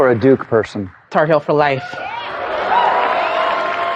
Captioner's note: cheering